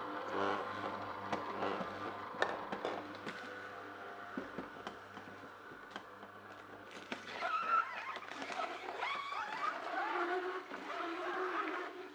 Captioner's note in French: Bruit de l’extracteur de jus